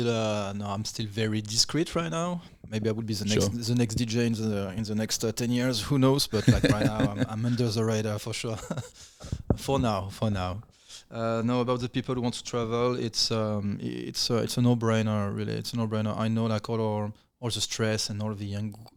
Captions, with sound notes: very discreet right now. Maybe I would be the next DJ in the next 10 years, who knows but right now I'm under the radar for sure. (laughing) - For now, for now. Know about the people who want to travel, it's a no brainer really, it's a no brainer. I know like all the stress and all the anger,